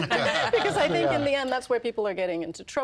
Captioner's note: all laughing